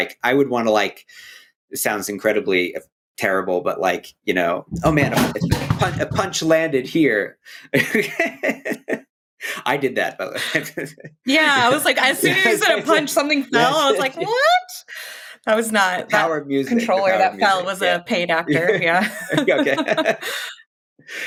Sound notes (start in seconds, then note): 5.3 light crash; 7.7 laughter